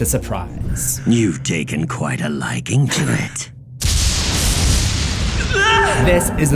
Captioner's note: thunder clap